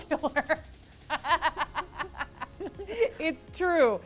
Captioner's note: laughter